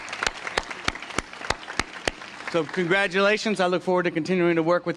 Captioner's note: applause